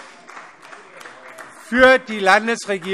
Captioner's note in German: Vereinzelter Beifall - Zuruf